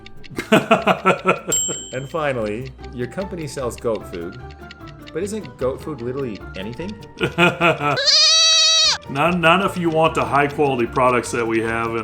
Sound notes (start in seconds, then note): 0.4 laughs; 7.2 laughs; 7.8 goat screams